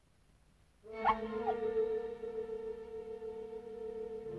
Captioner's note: dog whimpers